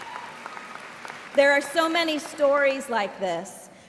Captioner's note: cheers and applause